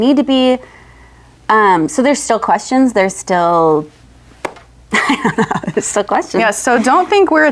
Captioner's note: laughs